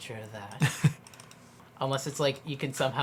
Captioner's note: laughs